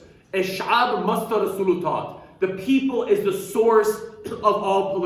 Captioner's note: speaking arabic